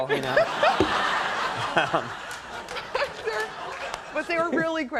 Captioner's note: audience laughs